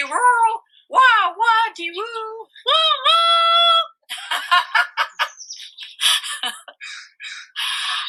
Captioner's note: train. noise and laughing